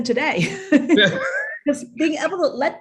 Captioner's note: chuckles